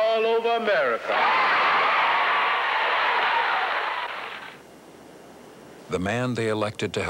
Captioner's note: cheering and applause